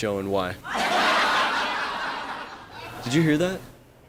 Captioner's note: laughter